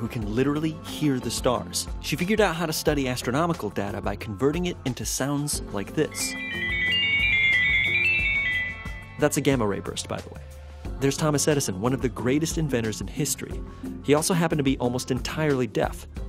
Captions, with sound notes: who can literally hear the stars. She figured out how to study astronomical data by converting it into sounds like this: [shimmering and pinging sounds] That's a gamma-ray burst by the way. There's Thomas Edison, one of the greatest inventors in history. He also happened to be almost entirely deaf.